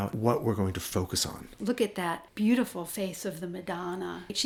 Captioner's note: voiceover